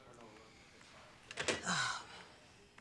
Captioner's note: groans